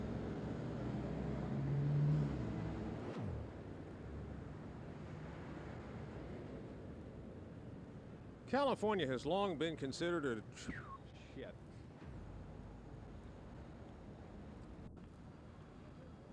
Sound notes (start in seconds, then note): 10.6 whistles and curses